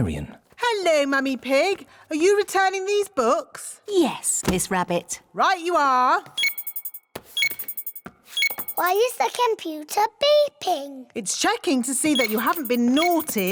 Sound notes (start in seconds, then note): 6.4 beeping